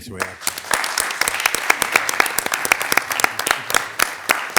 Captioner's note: attendees applauding